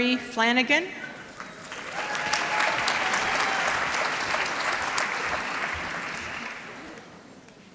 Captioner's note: applause